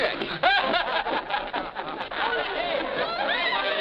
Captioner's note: men chuckling